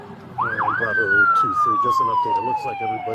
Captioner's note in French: sirène hurlante